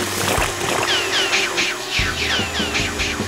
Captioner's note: sputtering sounds; whizzing